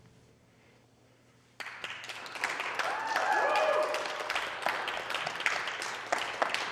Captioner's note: applause